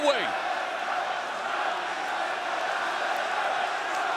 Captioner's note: crowd chanting